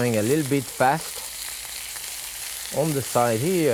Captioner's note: grill sizzling